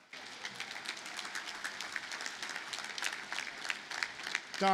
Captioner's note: audience applauding